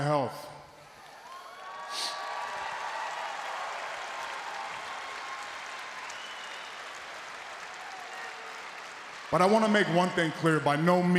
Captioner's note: applause